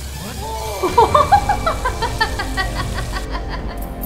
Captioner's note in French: rires diaboliques